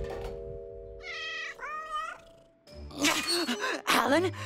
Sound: cat meows

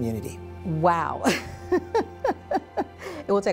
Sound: laughing

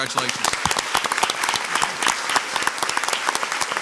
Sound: crowd applauds

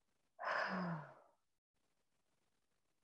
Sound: sighs

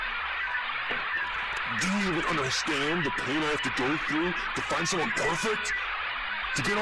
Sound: camera static

